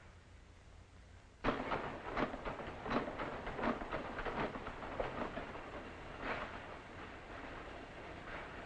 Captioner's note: factory noises